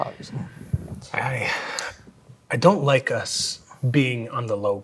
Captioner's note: sighs